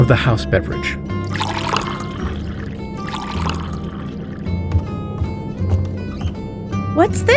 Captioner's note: pouring x2, footsteps recede